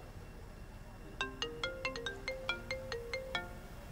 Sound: Cindy’s mobile phone rings

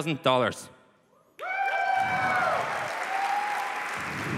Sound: applause

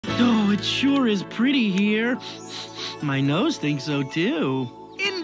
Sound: sniffs

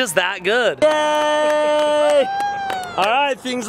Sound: cheering and clapping

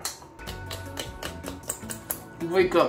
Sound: slapping sound

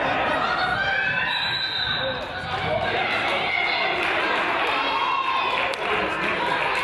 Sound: whistle blows; coach yells

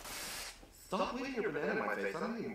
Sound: none

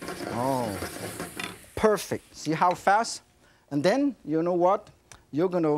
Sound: none

